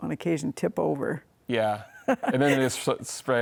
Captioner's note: laughs